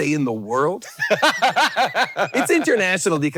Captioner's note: Hank laughing